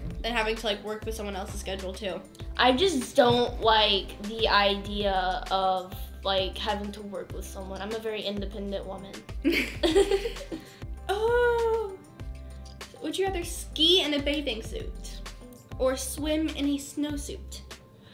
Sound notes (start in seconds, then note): 9.5 laughs